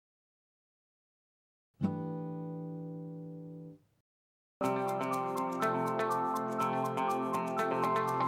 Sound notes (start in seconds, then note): 2.3 chime sounds; 4.6 upbeat music